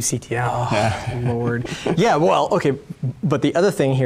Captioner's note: laughs